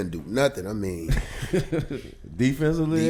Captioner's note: laughing